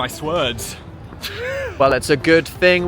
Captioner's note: laughing